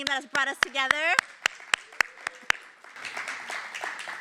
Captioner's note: applause